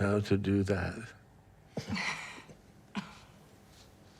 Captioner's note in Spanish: Robyn se ríe